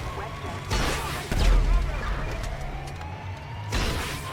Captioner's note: rockets boom